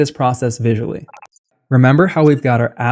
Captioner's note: beep